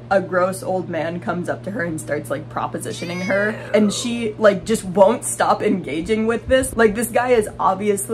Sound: eewww

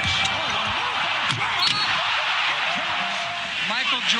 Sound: crowd cheering

